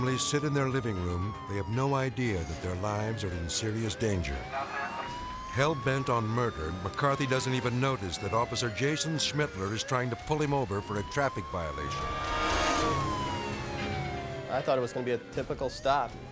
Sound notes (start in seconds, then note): 4.3 siren blaring; 12.0 tense music